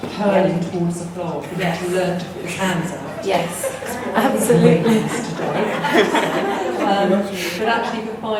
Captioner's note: laughter